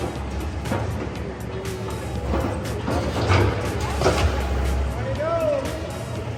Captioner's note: metal clattering against concrete